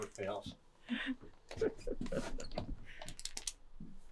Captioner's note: laughter